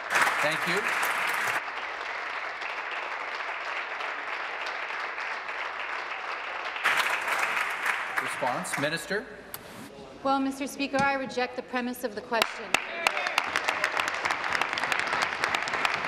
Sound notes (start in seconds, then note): 2.3 applause